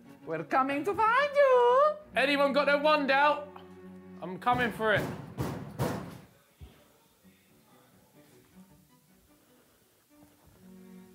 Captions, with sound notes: - We're coming to find you. - Anyone got their wand out? I'm coming for it. (loud banging on door)